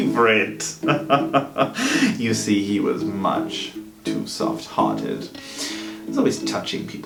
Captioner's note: laughs